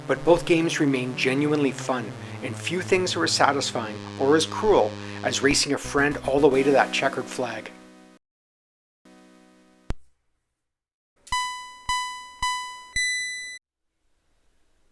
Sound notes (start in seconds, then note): 11.3 race start signals from Pitstop